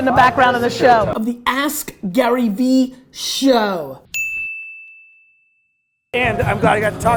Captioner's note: bell dings